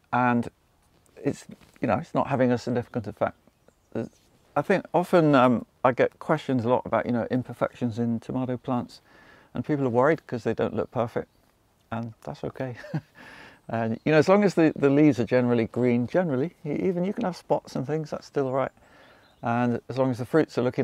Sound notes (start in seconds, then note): 12.7 laughs